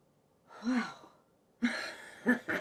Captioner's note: Betsy exhales heavily